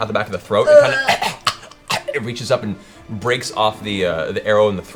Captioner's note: choking noise